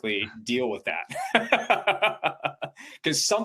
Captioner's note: chuckles